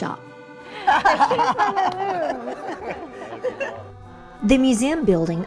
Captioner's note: group laughing